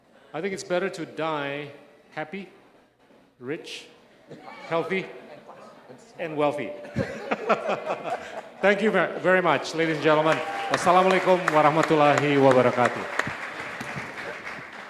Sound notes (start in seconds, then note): 6.8 laughs; 10.7 speaking indonesian